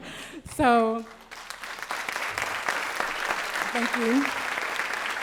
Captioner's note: applause